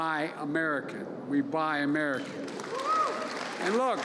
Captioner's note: applause